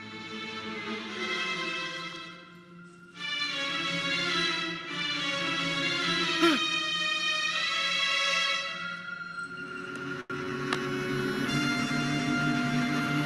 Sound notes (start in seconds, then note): 6.4 groans; 9.9 thrilling music